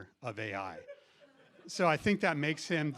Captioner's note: laughter